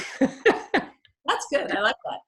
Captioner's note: laughing